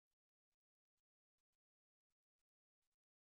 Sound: none

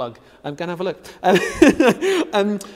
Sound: laughs loudly

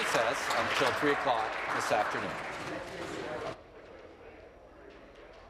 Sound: applause

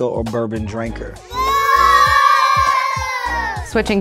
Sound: boo noise

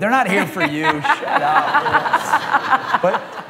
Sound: laughter

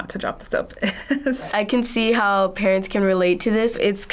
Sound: chuckles

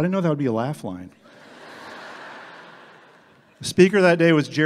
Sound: everyone laughs

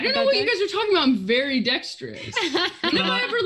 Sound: laughs

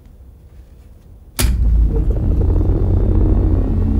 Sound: speaker buzzing at a high frequency

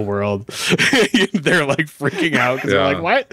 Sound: laughs

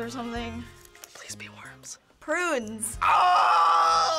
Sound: whispering

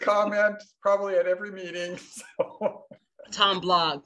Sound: laughs

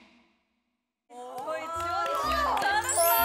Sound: applause

